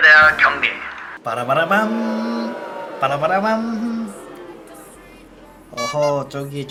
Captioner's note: boos